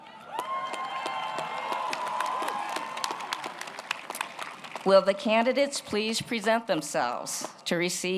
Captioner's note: applause